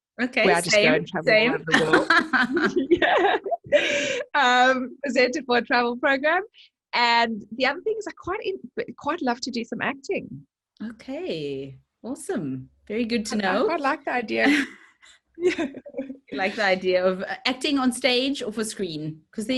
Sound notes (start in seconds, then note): 1.7 both laughing